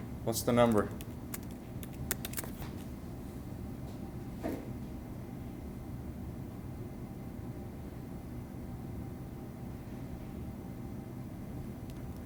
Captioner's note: sounds of Typing